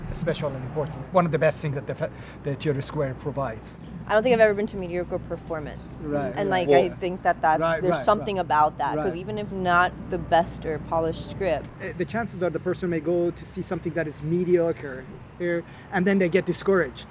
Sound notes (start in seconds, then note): none